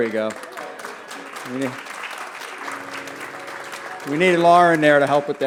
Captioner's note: applause